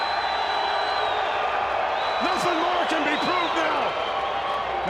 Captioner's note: crowd cheering